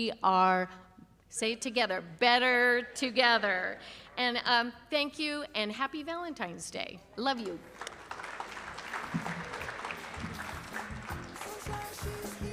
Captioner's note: applause